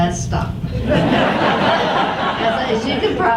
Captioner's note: audience laughs